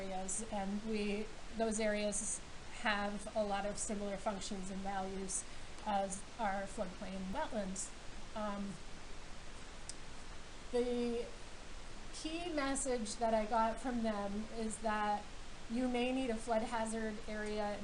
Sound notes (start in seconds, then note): none